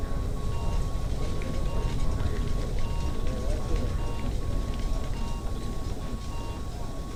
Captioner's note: people chattering; medical equipment beeping